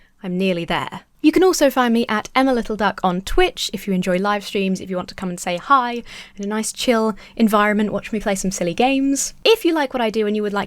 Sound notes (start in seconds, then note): none